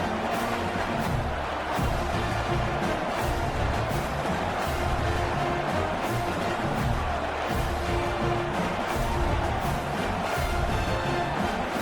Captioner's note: crowd Noises